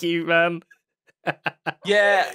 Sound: laughs

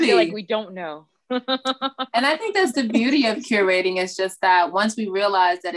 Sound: laughing

